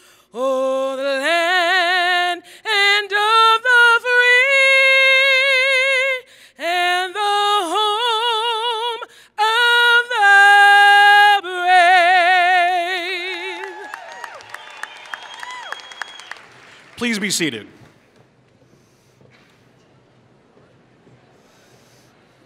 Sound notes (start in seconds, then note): 13.1 applause